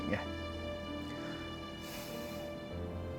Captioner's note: inhale